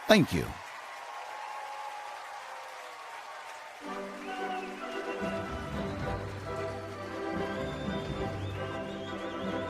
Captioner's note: applause & Cheers